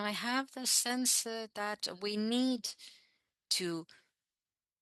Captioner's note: speaking French